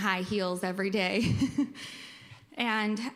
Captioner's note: laughs